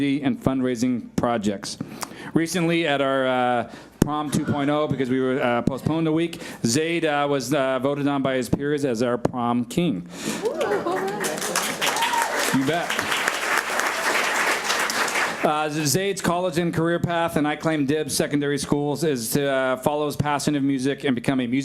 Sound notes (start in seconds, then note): 10.3 cheers; 10.4 audience applauds